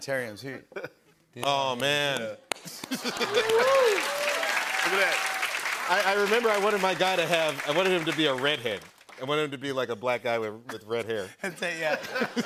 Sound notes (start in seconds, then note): 2.9 cheers and applause; 11.4 laughter